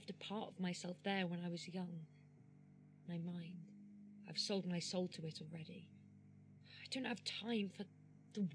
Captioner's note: sighing